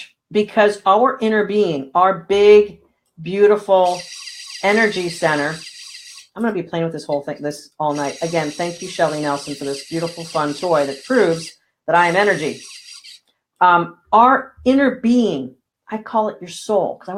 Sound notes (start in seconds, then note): 3.8 machine whirring